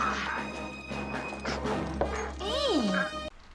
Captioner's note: footstephs